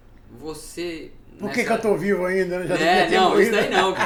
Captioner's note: laughs